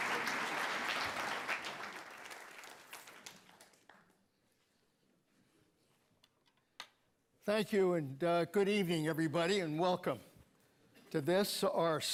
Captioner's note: applause